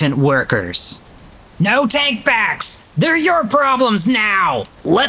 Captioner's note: shouting